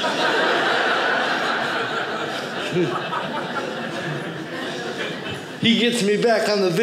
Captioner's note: audience laughing